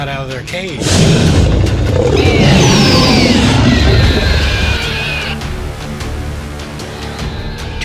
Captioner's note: roar & Prehistoric Sounds